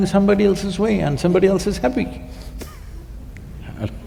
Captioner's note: laughs